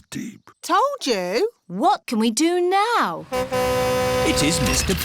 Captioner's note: horn honks